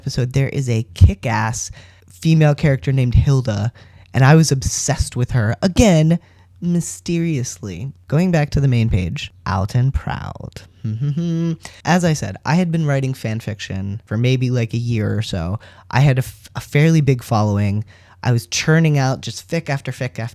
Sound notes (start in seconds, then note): none